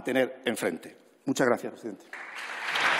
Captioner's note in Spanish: Aplausos